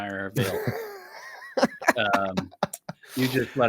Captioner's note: laughs